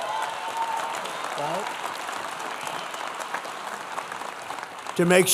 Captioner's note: applause